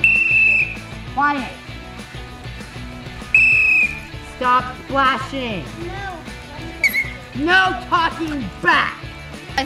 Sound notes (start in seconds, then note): 0.0 whistle blows; 3.2 whistle blows; 6.8 whistle blows